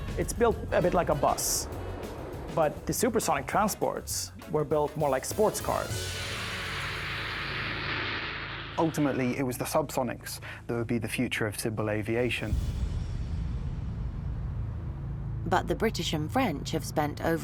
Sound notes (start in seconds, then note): 6.4 aeroplane whooshing; 12.4 tense booming music